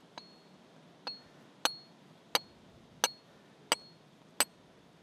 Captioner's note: metal clanging